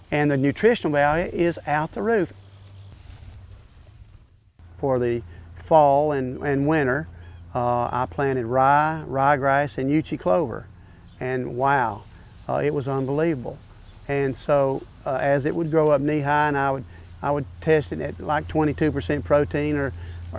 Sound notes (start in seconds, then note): 7.0 background bird calls